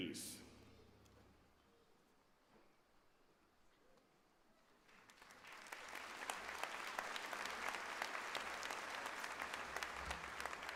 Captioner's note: applause